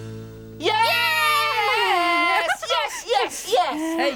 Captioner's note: cheering